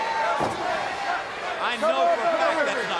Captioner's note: crowd chatter